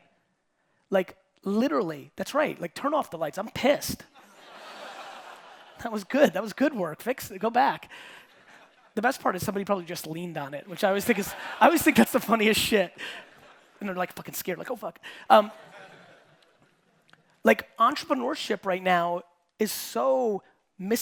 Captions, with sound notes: Literally, that's right, turn off the lights. I'm pissed. (audience laughing) That was good. That was good work. Go back. The best part is somebody probably just leaned on it which I always think that's the funniest shit. Then they're like fucking scared, like "Oh fuck." Entrepreneurship right now is so misbranded,